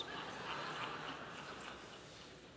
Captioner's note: laughter